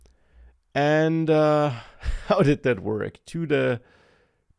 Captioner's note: laughs